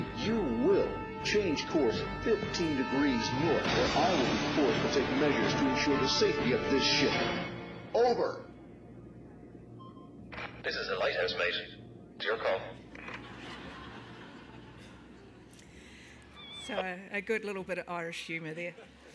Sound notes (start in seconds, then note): 12.9 participants laughing